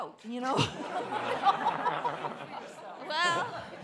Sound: audience laughing

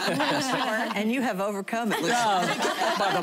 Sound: laughter

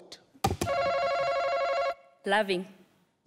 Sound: buzzer rings

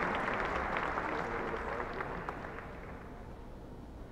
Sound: applauding

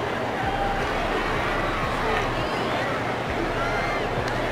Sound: crowd cheering

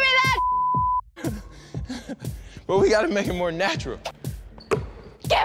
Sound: laughing

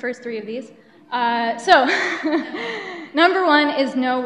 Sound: chuckles

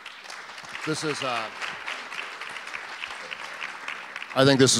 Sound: audience applause

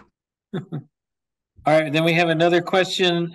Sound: chuckles

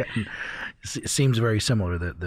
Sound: chuckle

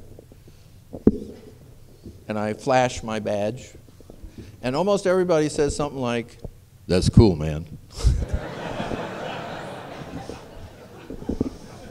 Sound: laughter

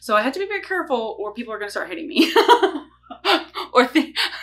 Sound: laughs

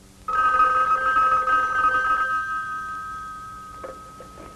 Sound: phone ringing

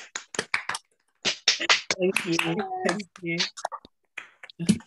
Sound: clapping

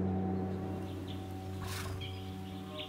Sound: wind blowing; birds chirping; bear snorting

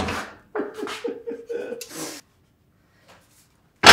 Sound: laughter

